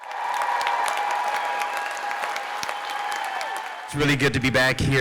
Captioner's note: audiece applauds & cheers